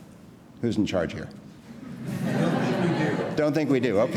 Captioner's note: laughing